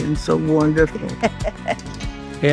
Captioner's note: laughing